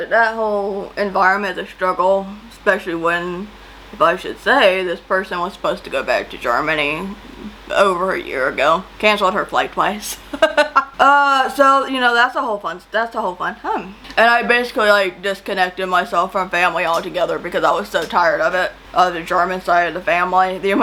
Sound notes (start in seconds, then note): 10.2 laughs sarcastically